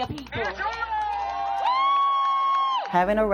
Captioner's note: crowd cheering